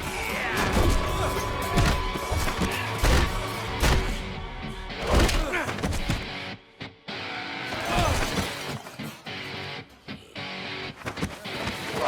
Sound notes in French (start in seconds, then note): 0.1 Esteban grogne; 9.2 musique rock intense